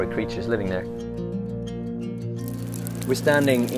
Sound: instrumental music; rain

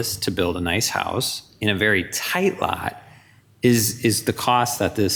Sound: none

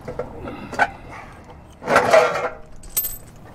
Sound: clatter

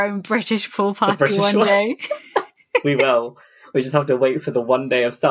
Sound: laughing

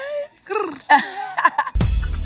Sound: rolls tongue

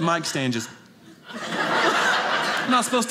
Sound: audience laughing

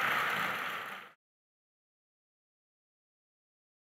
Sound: applause

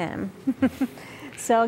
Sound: giggle

